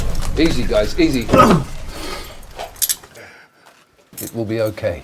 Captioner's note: man grunts